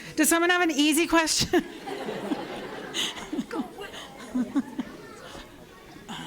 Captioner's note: laughter